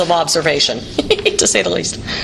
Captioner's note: laughing